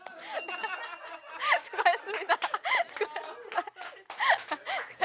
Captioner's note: comes back to the talk room in laughter